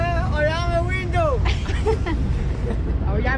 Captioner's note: laughter